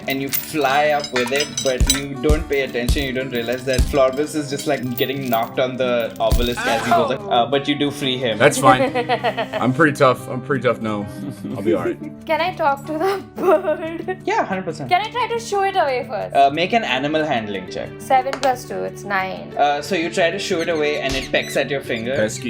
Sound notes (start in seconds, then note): 11.0 laughter; 13.0 laughs